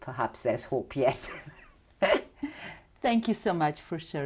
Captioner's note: laughs